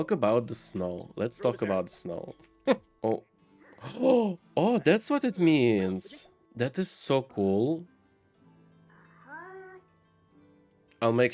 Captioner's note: laughs